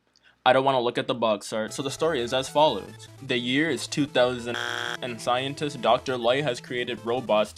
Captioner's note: buzzer